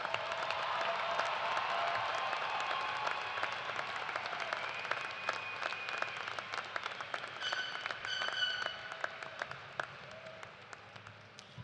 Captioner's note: cheers and applause